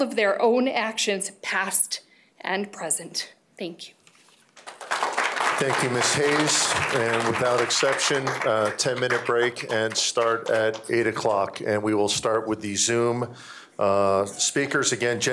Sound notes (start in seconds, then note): 7.2 applause